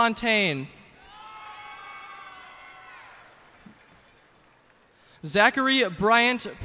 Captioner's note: cheers and applause